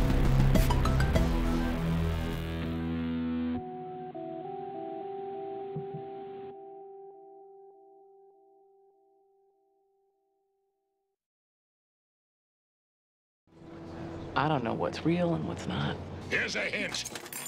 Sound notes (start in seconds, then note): none